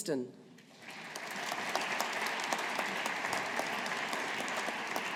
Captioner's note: audience applauding